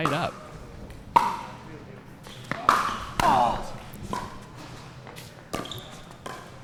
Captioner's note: shoes squeaking; ball being hit